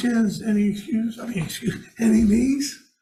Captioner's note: laughs